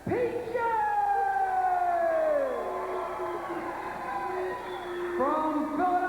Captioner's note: crowd cheering